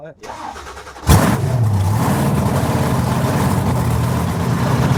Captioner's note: loud engine roars